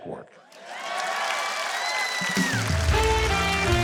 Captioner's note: audience cheers; jazzy music